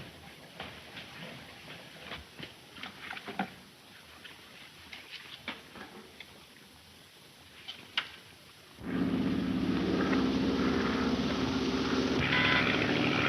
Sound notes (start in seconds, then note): 8.8 engine droning